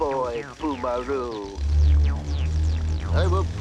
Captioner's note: buzzing